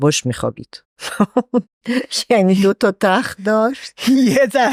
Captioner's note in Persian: خنده